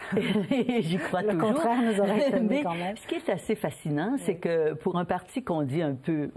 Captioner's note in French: rires